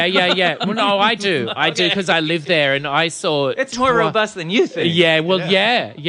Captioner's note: laughs; laughs